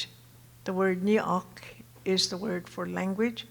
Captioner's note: speaking Tohono O'odham